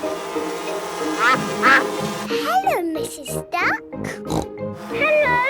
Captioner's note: quacking; snorting